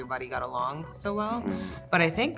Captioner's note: sound agreement